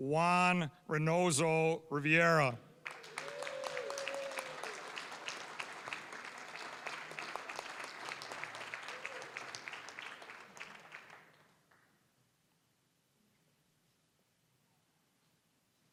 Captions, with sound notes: Juan Reynoso-Rivera. (applause, cheering) (applause)